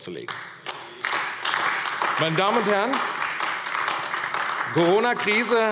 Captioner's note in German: Beifall AfD